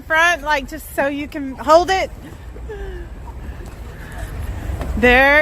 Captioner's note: chuckles